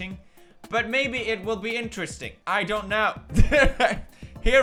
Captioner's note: laughs